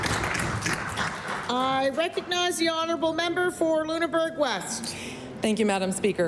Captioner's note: applause